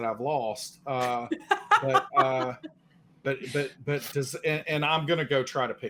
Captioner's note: laughs